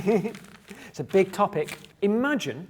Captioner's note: laughing